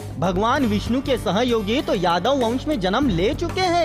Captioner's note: none